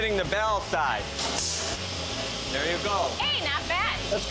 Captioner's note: grinding sounds